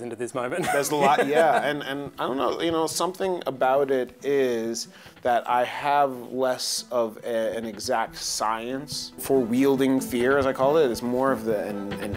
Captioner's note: laughs